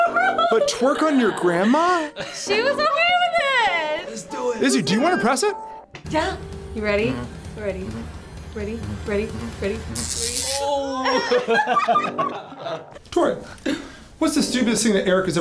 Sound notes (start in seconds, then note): 9.8 electricity crackles; 10.8 both laugh